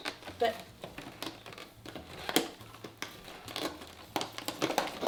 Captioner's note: packaging rustles